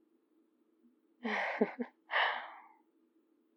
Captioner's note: laughs